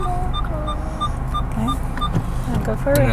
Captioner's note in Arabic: صوت مستشعر السيارة